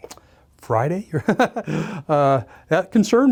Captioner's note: laughing nervously